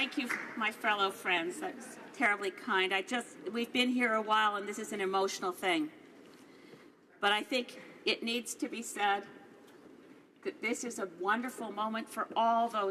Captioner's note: applause